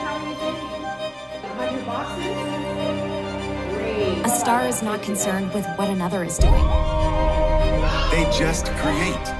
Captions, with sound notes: [indistinct chatter] A star is not concerned with what another is doing. They just create!